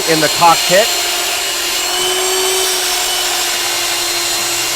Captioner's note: whirring